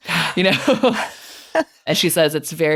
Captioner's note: chuckling